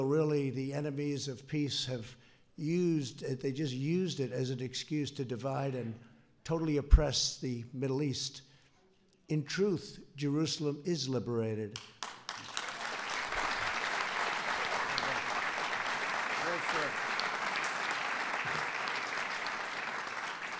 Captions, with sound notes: really, the enemies of peace have used -- they just used it as an excuse to divide and totally oppress the Middle East. In truth, Jerusalem is liberated. (applause) Jerusalem is a safe, open, democratic